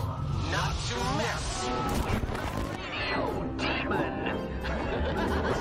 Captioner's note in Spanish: risas